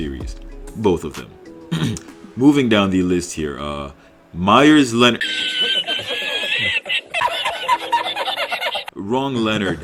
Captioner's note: laughing ensues